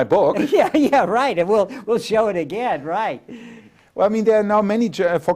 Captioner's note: laughs